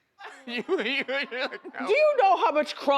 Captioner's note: co-host laughs